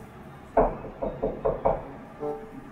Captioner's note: Knock on the door